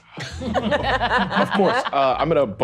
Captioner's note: all laughing